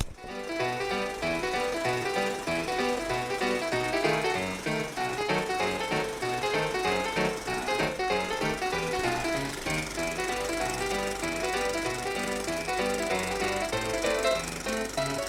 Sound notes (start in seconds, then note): 0.5 film reel spinning; 0.5 upbeat music